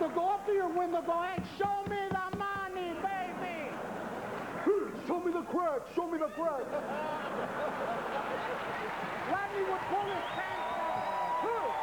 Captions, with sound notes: HE USED TO GO UP TO YOUR WINDOW AND SAY "SHOW ME THE MONEY, BABY !" ( Rodney's voice ) "SHOW ME THE CRACK, SHOW ME THE CRACK !!"